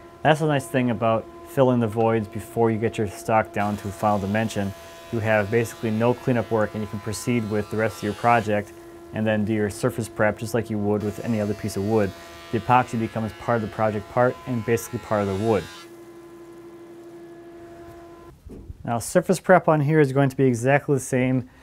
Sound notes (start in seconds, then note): 15.9 grinding softly